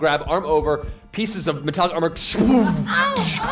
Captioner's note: crashing sound